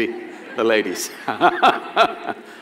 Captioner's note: laughter